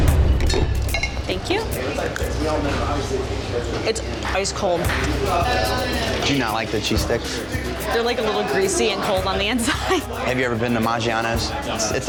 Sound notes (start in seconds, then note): 0.0 dramatic music; 0.0 suspenseful music; 2.4 customers chattering